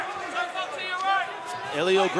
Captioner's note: yelling